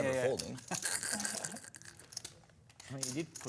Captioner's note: laughs